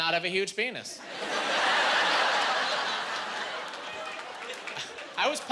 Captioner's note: laughing